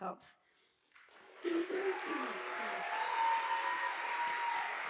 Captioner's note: audience applauding